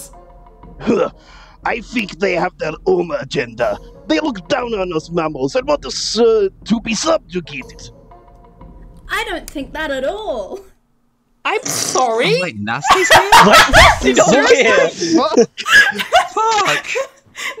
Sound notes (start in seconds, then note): 12.8 laughter